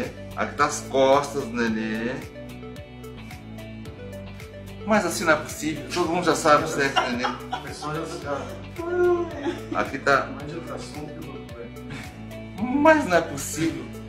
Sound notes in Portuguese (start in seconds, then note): 6.5 risos